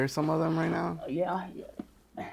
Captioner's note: grunts